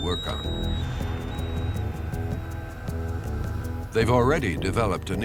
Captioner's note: door lock beeping